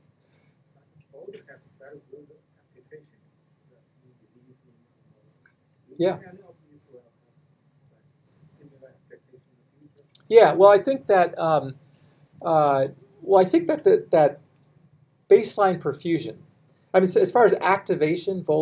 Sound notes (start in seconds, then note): 1.1 speaks faintly